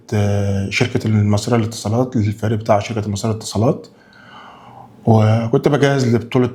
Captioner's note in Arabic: تنهّد